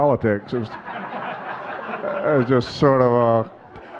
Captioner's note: audience laughing